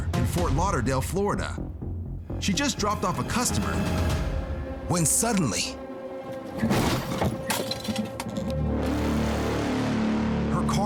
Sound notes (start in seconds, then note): 6.6 crash; 8.6 dramatic music playing